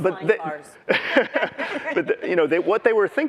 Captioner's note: laughter